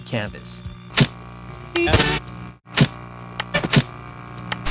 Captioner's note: static hisses